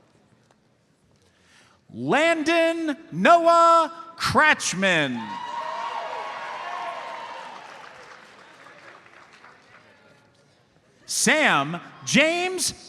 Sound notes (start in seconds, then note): 5.4 audience applauds